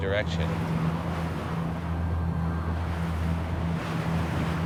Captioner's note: wind blowing